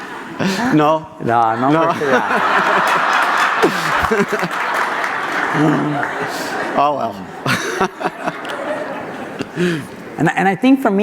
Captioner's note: audience laughter